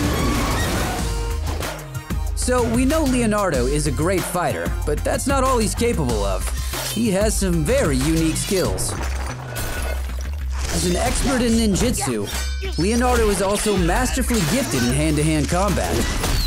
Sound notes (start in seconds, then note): none